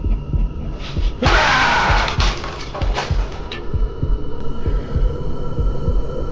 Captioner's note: chuckles; mirror crashes; Jim roars; suspenseful music